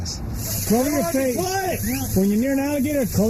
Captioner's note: shouting